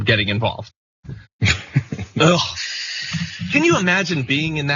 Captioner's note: laugh